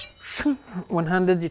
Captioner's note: shing